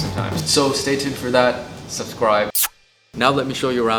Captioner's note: kissing